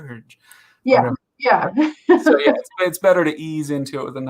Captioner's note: laughs